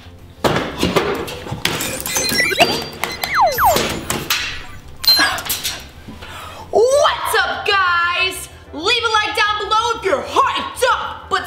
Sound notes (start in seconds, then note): 1.8 computer whizzing